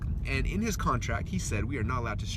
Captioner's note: none